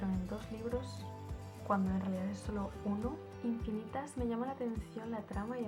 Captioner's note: spanish only